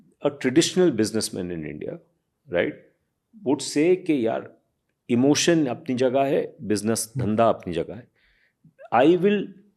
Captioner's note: speaks in Hindi